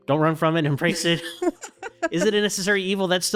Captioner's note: laughing